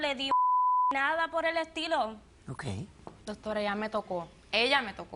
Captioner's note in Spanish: Bip